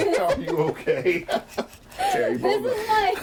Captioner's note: all laughing